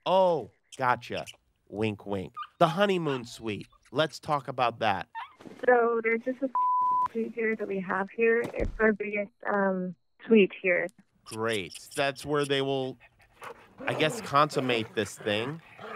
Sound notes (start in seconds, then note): 6.5 beeping